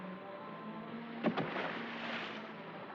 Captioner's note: water Splashes